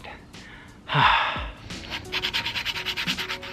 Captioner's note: sighs